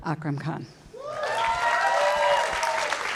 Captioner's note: shouting, clapping